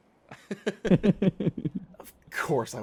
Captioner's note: laughter